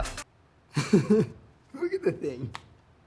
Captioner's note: laughing